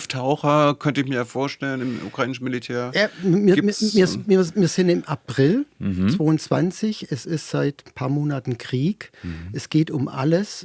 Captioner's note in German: schnauben